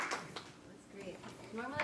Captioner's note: audience applauding